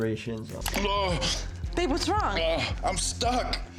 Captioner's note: man groaning